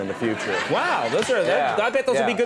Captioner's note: audience laughing